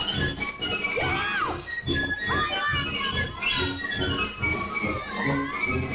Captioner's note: kids shouting happily; lively band music